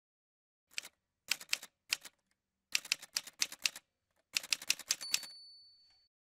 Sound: typewriter sounds

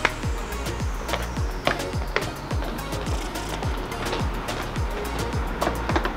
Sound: claps; shoes skipping on the floor

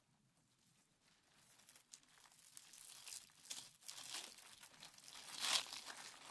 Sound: fur crinkling

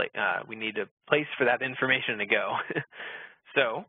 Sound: laughs

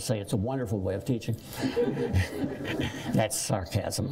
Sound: laughter

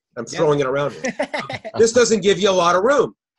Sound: laughing

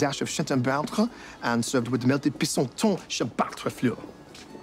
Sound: french; french

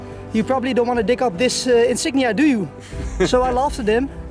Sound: laughing

